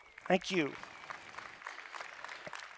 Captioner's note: audience clapping